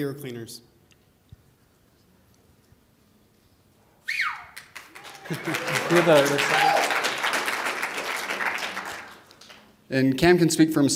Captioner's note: applause